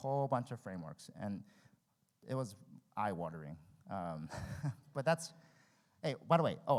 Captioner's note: laughs